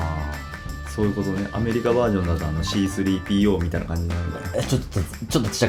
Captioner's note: laughs